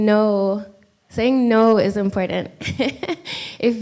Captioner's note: laughs